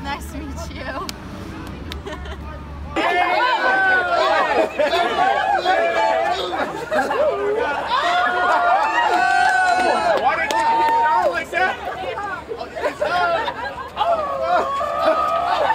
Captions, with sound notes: - Nice to meet you. (laughing) (crowd yelling)